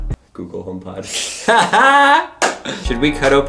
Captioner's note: laughs loudly